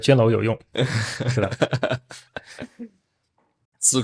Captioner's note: laughs